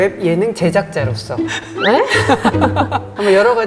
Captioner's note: chuckles